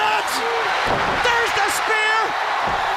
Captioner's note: crowd cheering